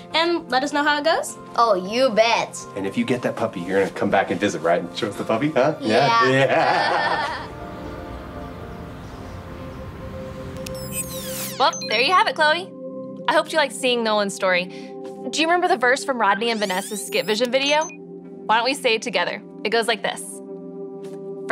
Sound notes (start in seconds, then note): 6.2 chuckles; 8.0 light music